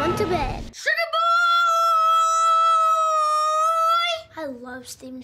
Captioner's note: screaming